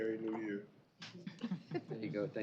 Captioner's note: chuckling